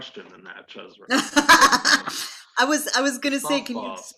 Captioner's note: laughs